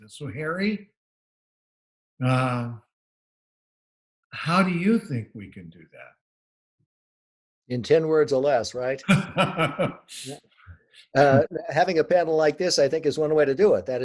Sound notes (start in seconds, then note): 9.0 laughs